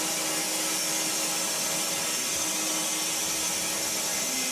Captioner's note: saw whirring